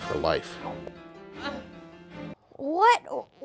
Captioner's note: groaning